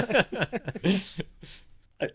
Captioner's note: both laughing